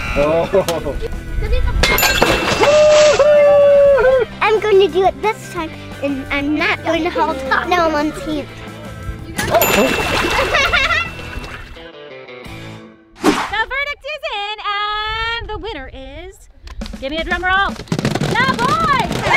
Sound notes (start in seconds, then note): 1.9 chime; 9.6 chime; 16.9 drum roll